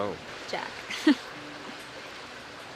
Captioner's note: chuckles; soft dramatic music